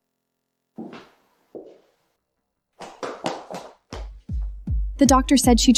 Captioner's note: knocking